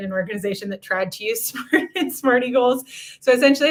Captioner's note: laughter